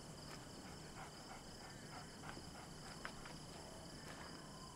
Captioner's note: coyote panting